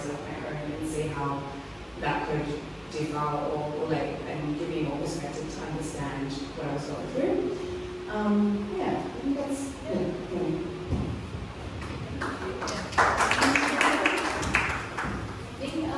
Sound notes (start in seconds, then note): 10.5 claps